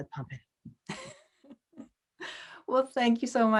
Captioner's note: laughs